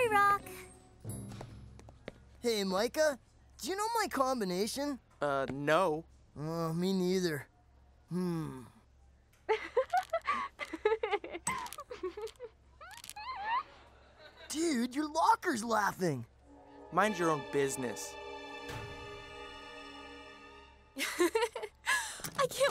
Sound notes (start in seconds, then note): 9.5 shale giggling